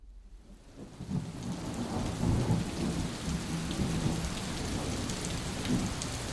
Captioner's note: rain pouring